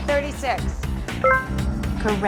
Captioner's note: computer ding